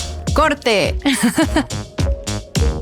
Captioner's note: laughs